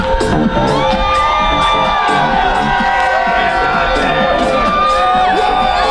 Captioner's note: EDM music plays; crowd cheering escalates